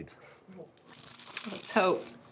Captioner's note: crunching sound